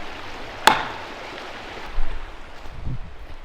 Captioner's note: wood thwacks